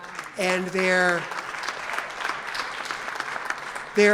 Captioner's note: audience applauds